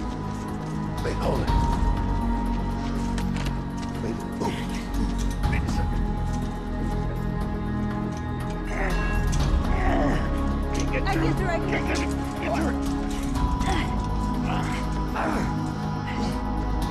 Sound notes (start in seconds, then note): 8.6 grunting; 11.6 grunts; 14.2 grunting